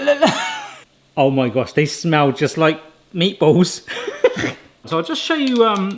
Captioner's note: laughs